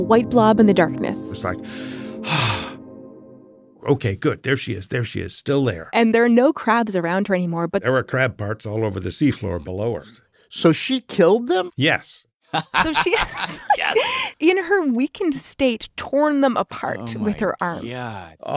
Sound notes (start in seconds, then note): 12.5 laughs